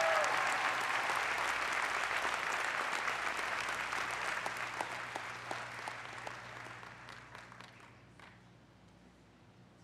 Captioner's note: applause